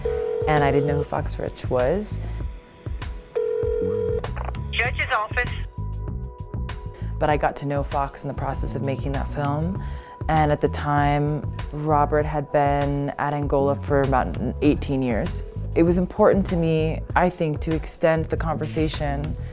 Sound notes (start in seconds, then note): 3.4 phone beeping